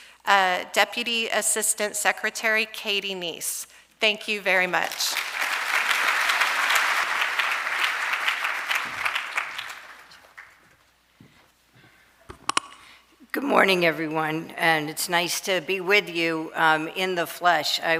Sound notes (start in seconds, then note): 5.0 audience applauding